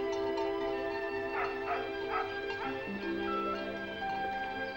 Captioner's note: dog barking